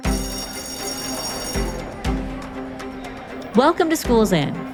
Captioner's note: bell ringing